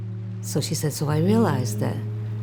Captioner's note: water flowing